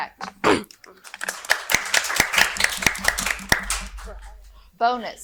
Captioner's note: audience applauding